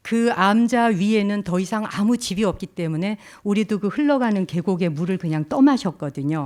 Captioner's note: speaking in Korean